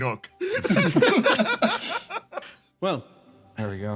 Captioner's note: laughs